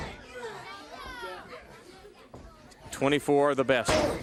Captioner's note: crowd chatter